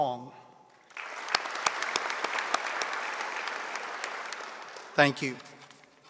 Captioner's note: audience applauding